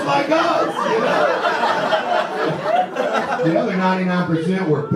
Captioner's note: audience laughter